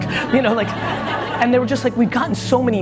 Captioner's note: audience laughs